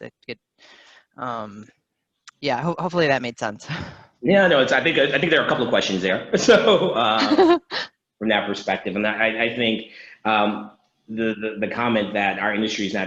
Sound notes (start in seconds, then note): 6.4 laughing